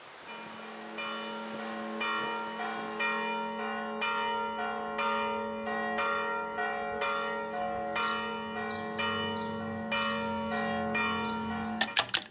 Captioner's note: church bells ringing